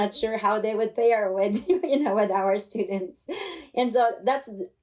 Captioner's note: laughter